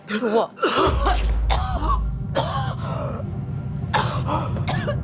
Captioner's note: grace's coughing continues